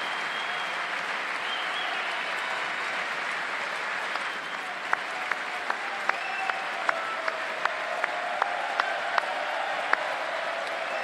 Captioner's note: applause